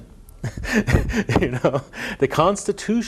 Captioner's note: chuckles